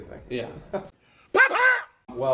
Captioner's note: laughs